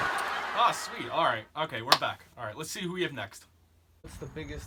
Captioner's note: audience laughing